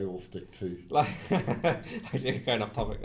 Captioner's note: laughs